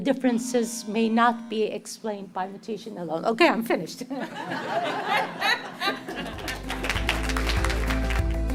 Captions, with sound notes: The differences may not be explained by mutation alone. Okay, I'm finished. [laughter] [applause]